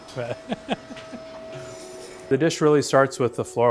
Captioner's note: laughs